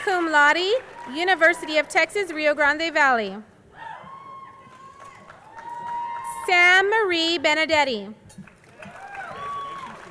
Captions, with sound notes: cum laude, University of Texas, Rio Grande Valley. (crowd cheering) Sam Marie Benedetti,